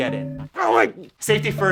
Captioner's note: grunts